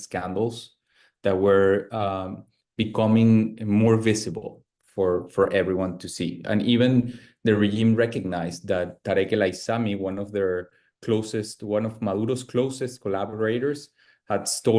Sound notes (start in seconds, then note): 9.1 speaks Spanish